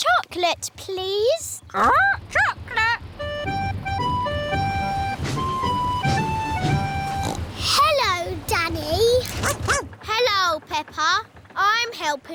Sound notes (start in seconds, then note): 6.4 snorts; 9.4 barks